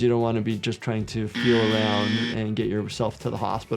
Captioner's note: buzzer buzzes